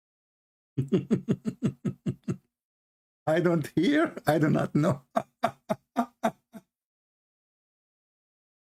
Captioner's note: Ketawa